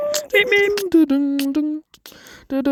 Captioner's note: then beatboxing